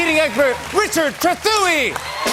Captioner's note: cheers and applause